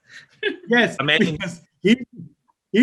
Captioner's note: laughing